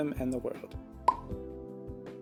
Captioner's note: pop